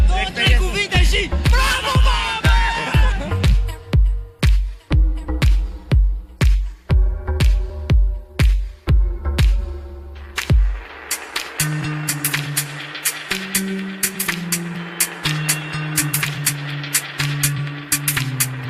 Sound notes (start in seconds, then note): 8.4 applause